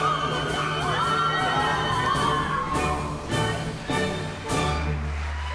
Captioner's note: general screams; applause